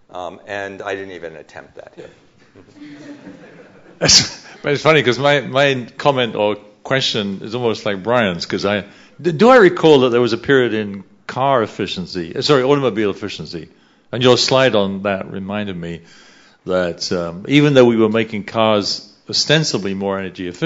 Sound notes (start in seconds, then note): 2.4 laughter; 4.4 chuckles